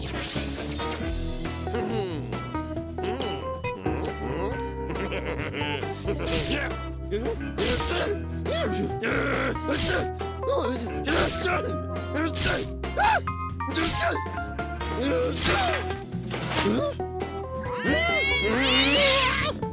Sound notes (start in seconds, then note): 1.6 mutters; 4.7 chuckles wickedly; 8.4 exclaims irritably; 13.0 shouts; 17.6 exclaims; 17.6 yowls; 18.0 whimpers